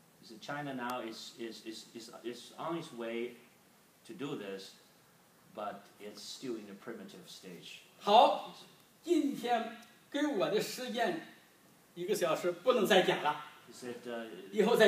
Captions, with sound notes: He said, China now is on it's way to do this, but it's still in the primitive stage. (speaking foreign language) He said,